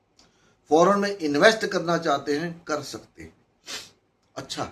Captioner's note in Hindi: नाक से की जाने वाली आवाज़